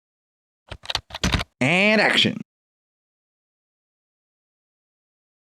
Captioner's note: typing